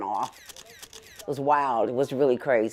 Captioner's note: camera shuttering